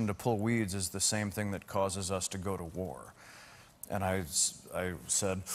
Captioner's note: inhails